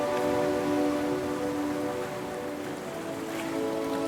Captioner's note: soft dramatic music continues; waves lapping